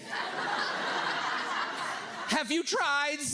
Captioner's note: audience laughs